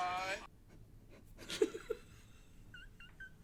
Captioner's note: laughing